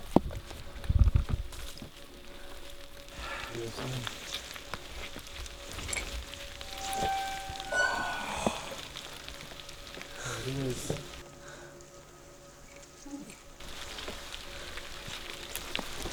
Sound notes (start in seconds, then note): 0.2 sounds of rainfall; 6.6 door creaking open